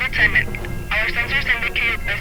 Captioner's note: radio reverb